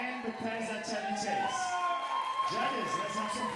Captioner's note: audience cheering and applauding